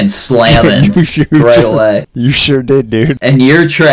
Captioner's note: laughs